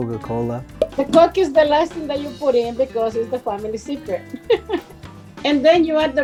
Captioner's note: laugh